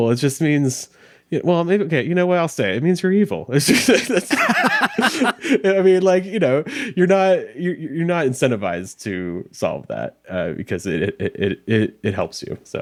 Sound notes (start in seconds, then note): 3.6 laughing